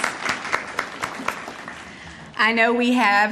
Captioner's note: audience applauding